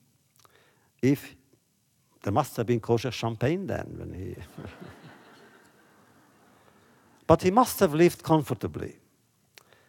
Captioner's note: laughter